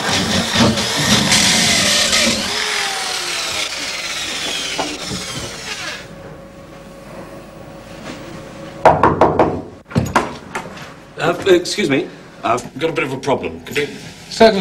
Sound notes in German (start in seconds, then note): 4.3 Bohren hôrt auf